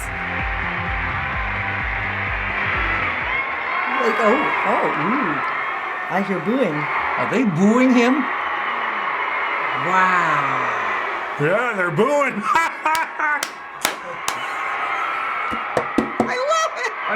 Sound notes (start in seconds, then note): 0.0 audience cheers; 2.2 some in audience begin booing; 8.2 audience members boo; 13.9 uncontrollable laughter; 15.5 bangs table